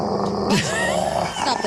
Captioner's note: growling